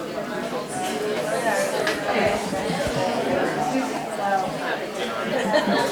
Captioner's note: chatter